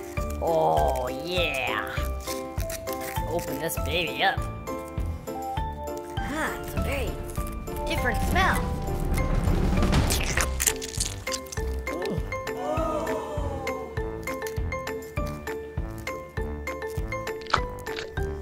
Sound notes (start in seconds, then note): 10.1 chewing sounds; 12.0 crowd gasps